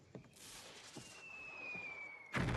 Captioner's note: exploding artillary